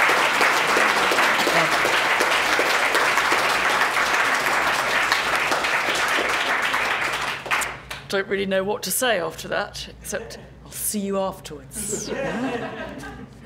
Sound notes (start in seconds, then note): 5.9 applause; 11.8 laugh